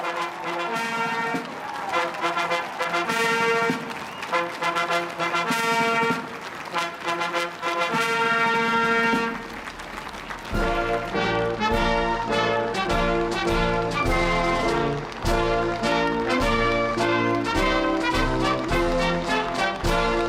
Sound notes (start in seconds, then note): 5.9 applause; 5.9 cheering